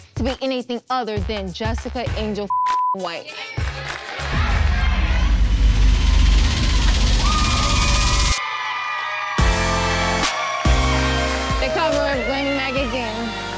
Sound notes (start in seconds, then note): 2.4 beep; 3.2 crowd cheering